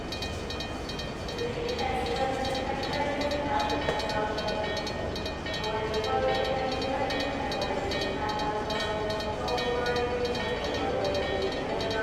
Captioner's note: steam locomotive bell ringing